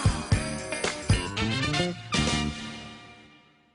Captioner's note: bells jingling